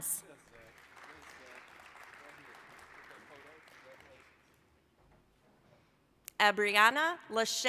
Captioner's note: applause